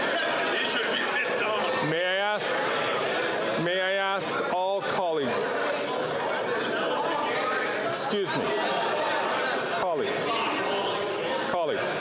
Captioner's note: chatter